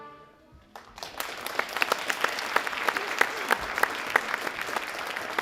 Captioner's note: audience applauding